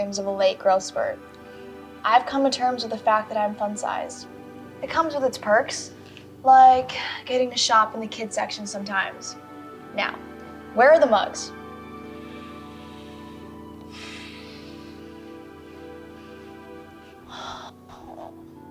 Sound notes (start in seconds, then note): 13.6 Tom sighs; 15.6 Joy groans